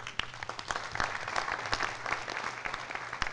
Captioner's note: applause